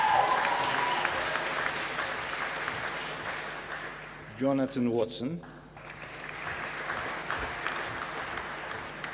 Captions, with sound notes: Jonathan Watson. (APPLAUSE)